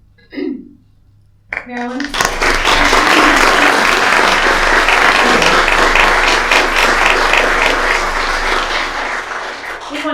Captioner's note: applause